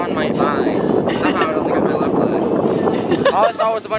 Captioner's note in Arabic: قهقهة